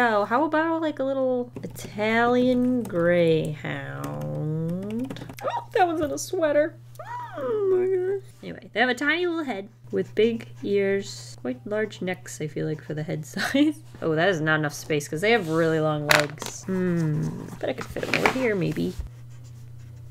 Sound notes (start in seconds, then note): 5.1 delighted squeal